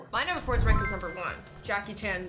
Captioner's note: blip